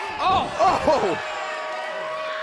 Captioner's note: crowd cheering